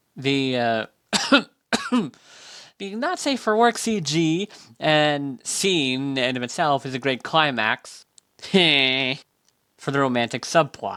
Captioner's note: cough cough